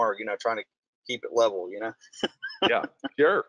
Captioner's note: laughing